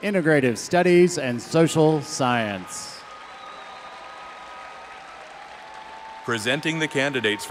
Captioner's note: audience cheering